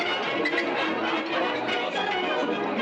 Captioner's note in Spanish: none